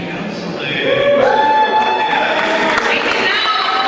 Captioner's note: cheering